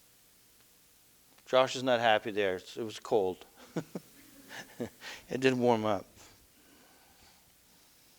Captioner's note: laughter